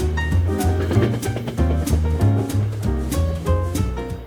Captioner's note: train tracks clacking